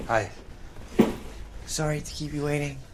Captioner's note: bag thudding